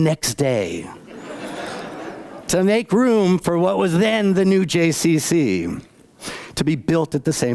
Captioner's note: laughter